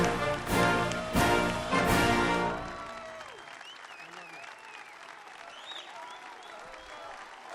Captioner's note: applause